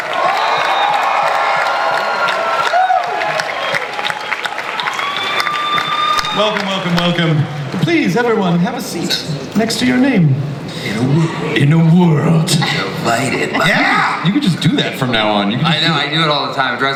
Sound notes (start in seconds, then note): 0.0 audience cheers; 11.5 dramatically